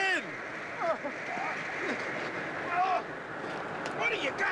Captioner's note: grunting